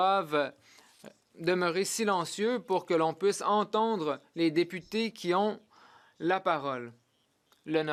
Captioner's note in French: voix de l'interprète